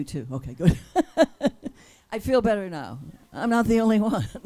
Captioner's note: laughs